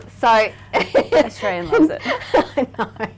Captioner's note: laughing